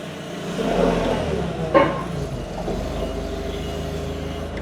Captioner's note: machine whirring